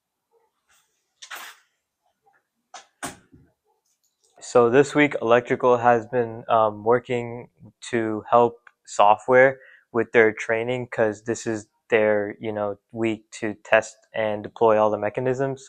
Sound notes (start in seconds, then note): 3.0 door shuts